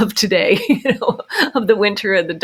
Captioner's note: laughs